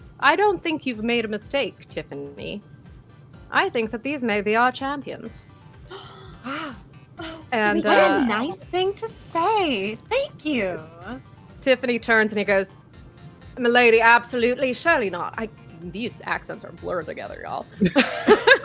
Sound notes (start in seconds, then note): 5.9 gasps; 17.8 laughter